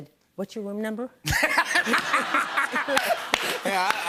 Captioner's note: laughter